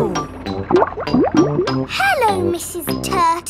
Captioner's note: bubbling